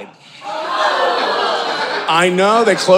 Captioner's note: audience gasping